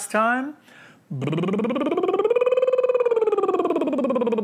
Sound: lips trilling

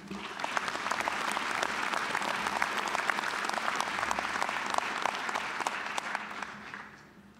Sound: applause

